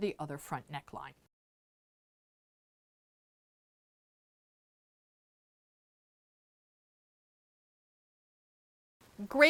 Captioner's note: no Sound Present